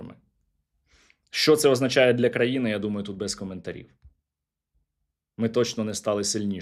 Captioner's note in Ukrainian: сопіння